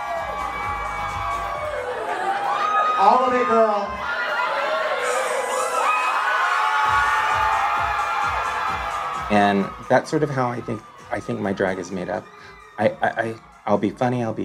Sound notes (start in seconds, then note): 4.1 cheering louder